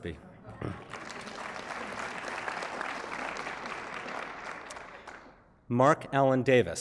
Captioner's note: applause